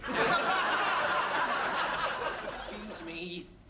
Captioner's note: laughter